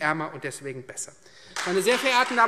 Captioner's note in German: Beifall Freie Demokraten